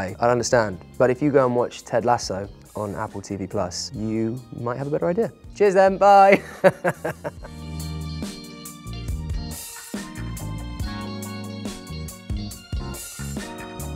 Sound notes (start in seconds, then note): 6.3 Phil chuckles; 7.7 soft mellow music